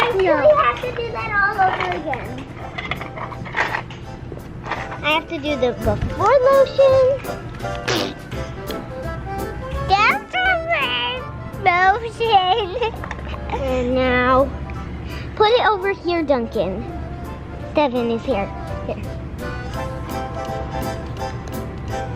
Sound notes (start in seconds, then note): 7.8 squirts; 12.3 laughs